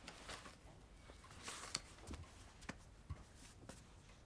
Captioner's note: none